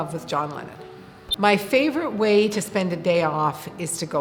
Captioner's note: beep